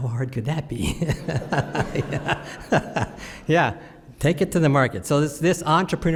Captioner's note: laughs